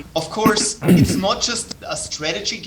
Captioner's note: chuckling